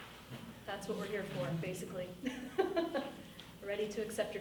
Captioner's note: laughs